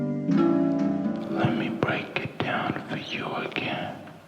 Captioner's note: whispering